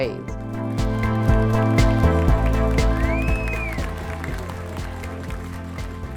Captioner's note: applause and cheering